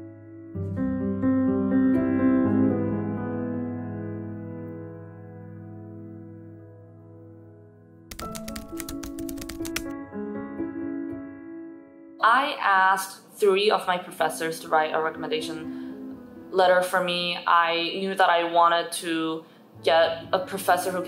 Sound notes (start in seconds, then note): 10.2 soft music playing; 10.2 typing sound effects